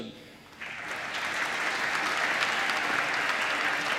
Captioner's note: applause